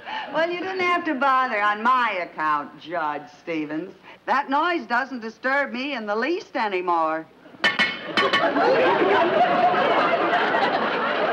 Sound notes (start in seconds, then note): 7.6 metal clanking; 8.0 audience laughs